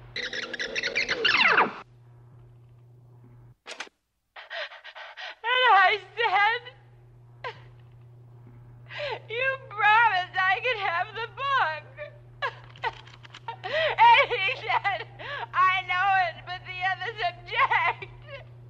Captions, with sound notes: (tape squeaks) (tape recorder clicks) (crying) - And I said, "You promised I could have the book!" And he said, "I know it, but the others object!"